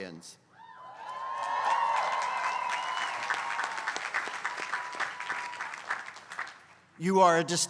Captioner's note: applause